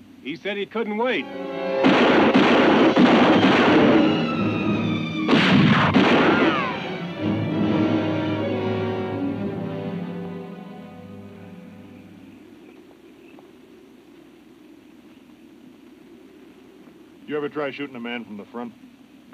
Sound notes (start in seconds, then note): 1.8 guns bang; 7.0 dramatic music